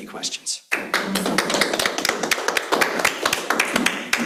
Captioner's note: audience claps